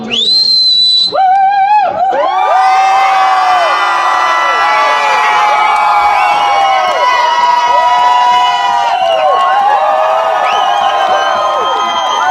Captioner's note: crowd cheers